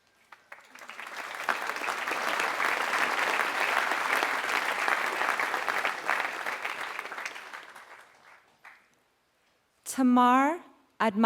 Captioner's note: applause